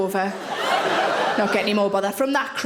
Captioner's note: audience laughing